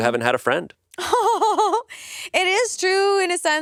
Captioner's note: laughs